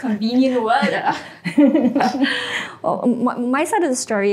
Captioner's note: all laugh